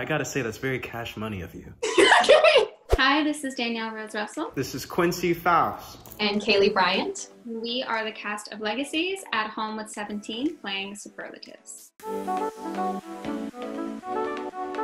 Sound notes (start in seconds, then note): 1.8 Kaylee laughs; 11.7 upbeat music